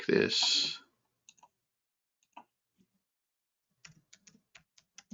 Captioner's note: keyboard clicking